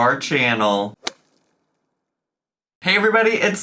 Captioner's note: whip cracks